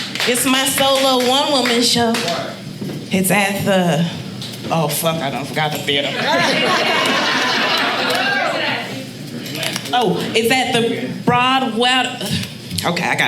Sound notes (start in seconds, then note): 6.0 audience laughing